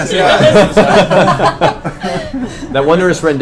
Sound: all laugh

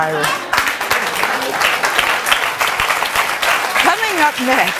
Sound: audience clapping

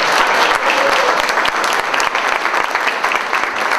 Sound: loud applause

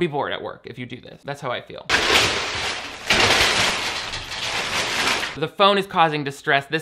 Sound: cardboard crashes

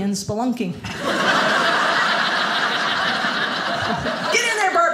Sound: audience laughing

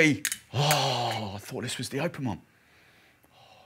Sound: gasps

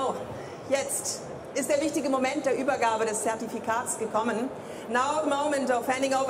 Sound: speaking in foreign language

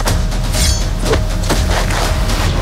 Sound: blade slashes

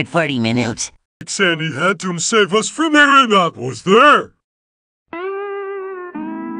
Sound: Patrick talking nonsense

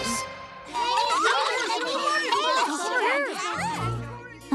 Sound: chattering

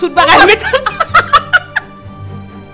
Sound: both laughing

